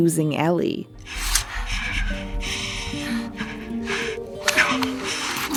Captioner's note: Joel breathing shakily